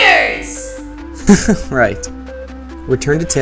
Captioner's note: laugh